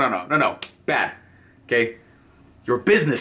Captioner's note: slaps